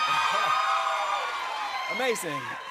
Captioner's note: chuckles